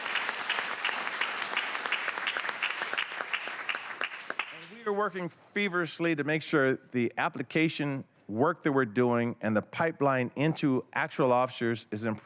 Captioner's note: applause